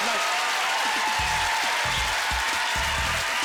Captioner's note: cheers and applause